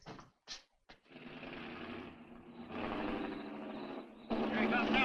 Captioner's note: engine rumbling